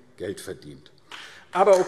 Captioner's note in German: Beifall AfD